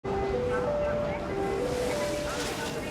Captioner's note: announcement ringtone